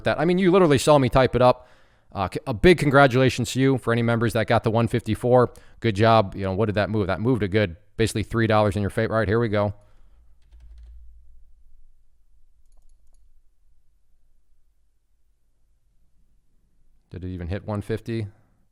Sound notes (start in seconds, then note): 10.3 keyboard clattering; 12.6 mouse clicking